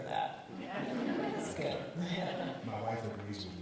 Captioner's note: audience titters